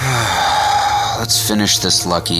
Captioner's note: Agent J moans